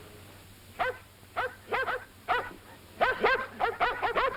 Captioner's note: dogs barking